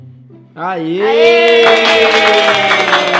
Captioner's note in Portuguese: Palmas